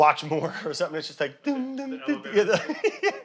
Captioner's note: laughing; humming